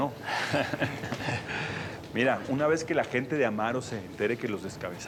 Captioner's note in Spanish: risas